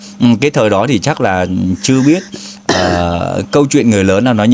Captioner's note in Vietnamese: hắng giọng